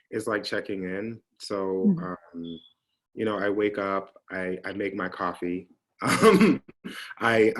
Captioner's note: laughs